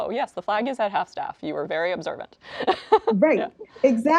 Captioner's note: laughs